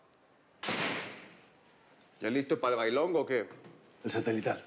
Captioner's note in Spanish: sonido al cerrar la puerta